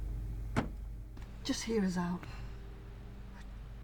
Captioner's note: door slums